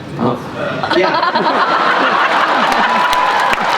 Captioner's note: laughter; applause